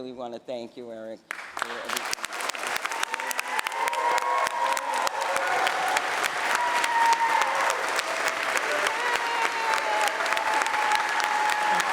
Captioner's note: applause